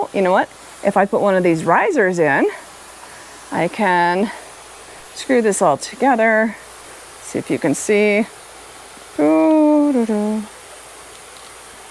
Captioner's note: hums